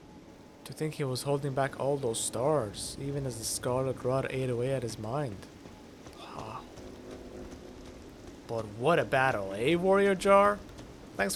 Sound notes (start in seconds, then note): 6.0 gasp of astonishment